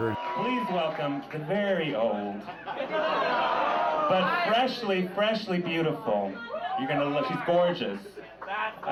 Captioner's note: laughter